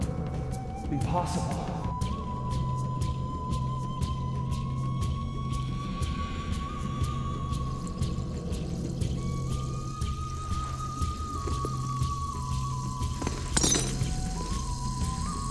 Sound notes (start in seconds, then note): 5.6 footsteps thud; 11.4 glass breaks; 11.4 water splashes